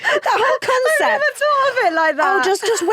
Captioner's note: laughs